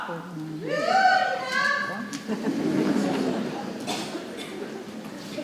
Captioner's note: people cheering and laughing; people chattering softly